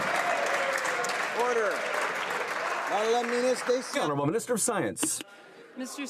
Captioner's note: some Applause